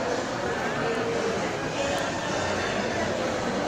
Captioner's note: background noise from market